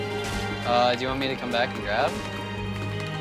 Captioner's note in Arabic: تحدث على سماعة الرأس